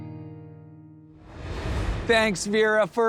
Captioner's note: air whooshes